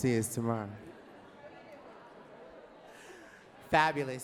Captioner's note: audience talking